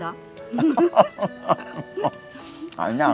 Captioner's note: both laughing